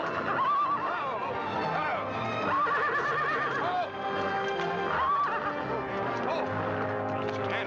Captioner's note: horse whinnies; dramatic music; horse whinnies